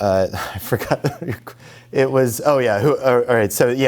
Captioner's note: laughs